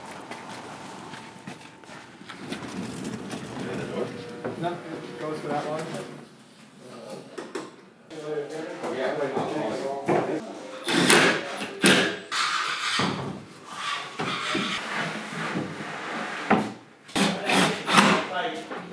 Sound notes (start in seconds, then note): 2.7 wheels rolling; 8.8 tools whirring